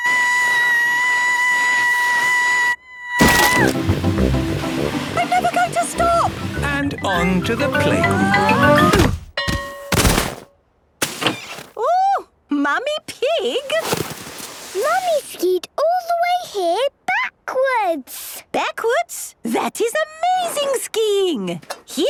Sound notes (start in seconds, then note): 2.7 screaming; 7.6 exclaiming and grunting; 9.4 bell ringing